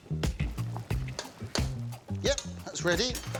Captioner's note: upbeat music; fork clanging